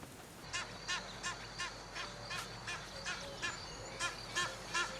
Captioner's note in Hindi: जानवरों की आवाज़ें